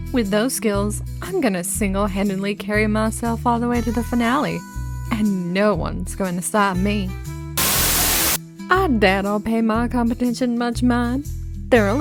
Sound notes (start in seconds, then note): 7.6 Static